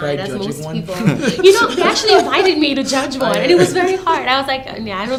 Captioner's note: laughter